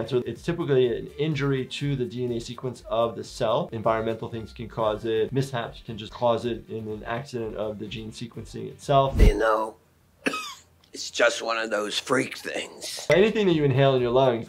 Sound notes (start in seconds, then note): 10.2 coughs